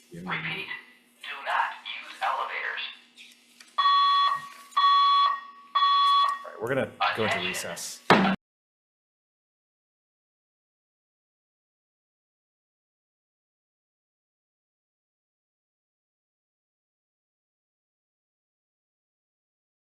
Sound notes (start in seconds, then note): 3.8 alarm beeping; 8.1 gavel taps